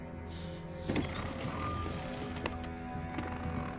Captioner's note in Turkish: Kapı sesi